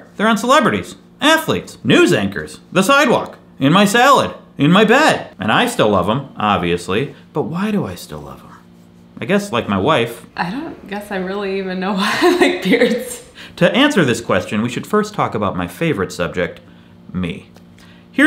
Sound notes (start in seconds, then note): 11.8 laughs